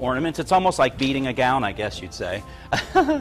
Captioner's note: laughs